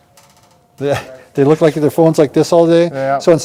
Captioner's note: chuckling